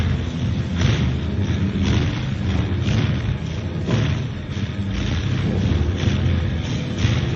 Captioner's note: dark music; machinery pounds